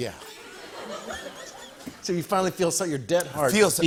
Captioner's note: laughter